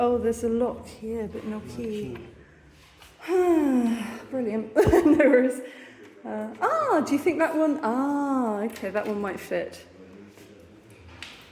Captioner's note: sigh